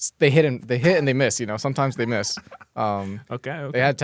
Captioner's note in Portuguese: risos